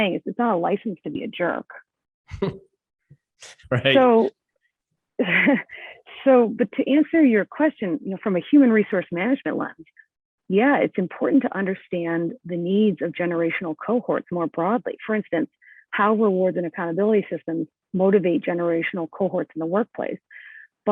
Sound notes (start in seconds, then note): 3.5 laughs